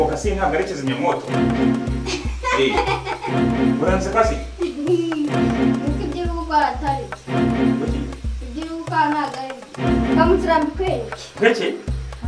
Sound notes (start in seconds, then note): 2.0 Kidi is laughing at him